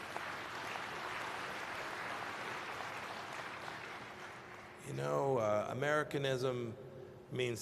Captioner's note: applause